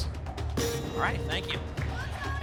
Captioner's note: ping